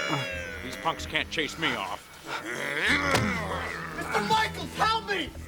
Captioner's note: growling